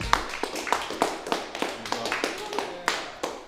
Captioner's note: applause